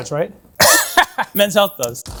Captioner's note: laughs